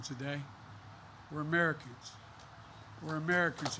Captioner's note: applause